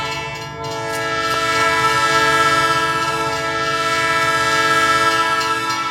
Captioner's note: bell dinging; train whistle blaring